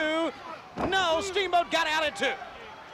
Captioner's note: crowd chatter